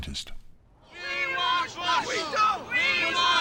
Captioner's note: chanting